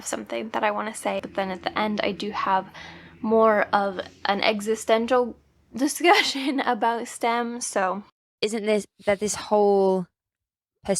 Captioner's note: podcast plays